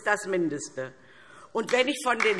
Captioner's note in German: Beifall DIE LINKE